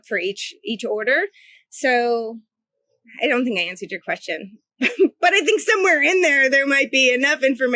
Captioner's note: laughs